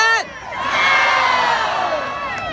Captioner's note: crowd